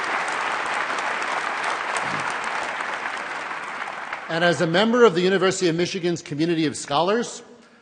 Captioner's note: applause